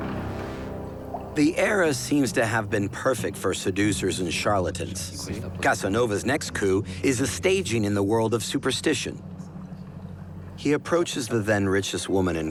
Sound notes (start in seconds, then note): 8.3 indistinct chatter